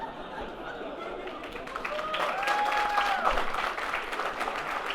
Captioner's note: audience laughs and applauds